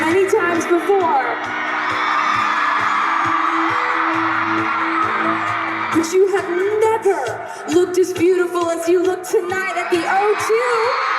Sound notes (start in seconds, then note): 2.9 loud crowd cheering